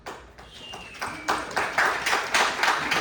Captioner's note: clapping